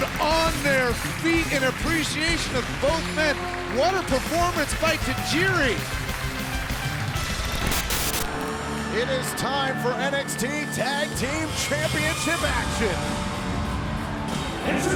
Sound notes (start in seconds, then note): 6.4 static buzzes